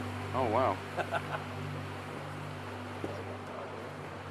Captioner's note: speaker laughs